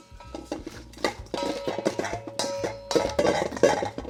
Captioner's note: clanging